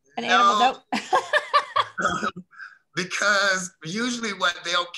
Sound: Felicia laughing

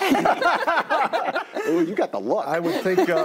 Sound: all laugh

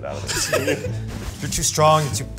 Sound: Zach laughs

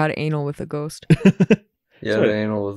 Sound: chuckles

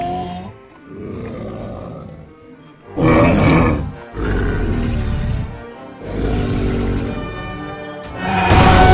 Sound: triceratops Sounds

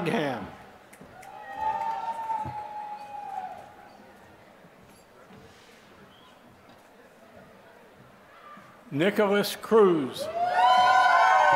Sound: applause; applause

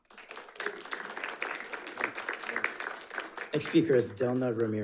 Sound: audience applauding

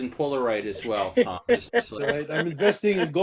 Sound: laughter

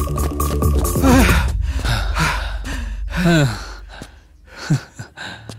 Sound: panting

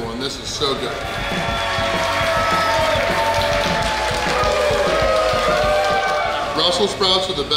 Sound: cheering & Clapping

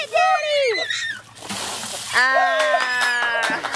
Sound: shouting; laughter

